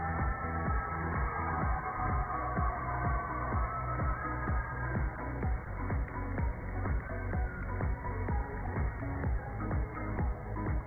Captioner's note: cheers and applause